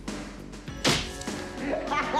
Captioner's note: mellow music; thud; laughing